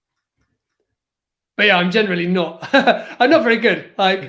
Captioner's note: laughs